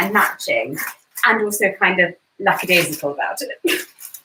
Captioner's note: chuckles